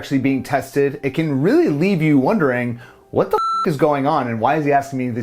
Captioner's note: beep